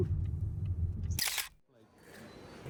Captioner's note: camera shutter clicks; upbeat music